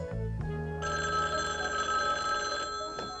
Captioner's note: phone ringing